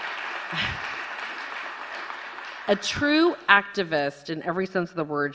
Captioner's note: applause